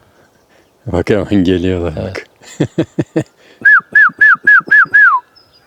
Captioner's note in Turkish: kahkaha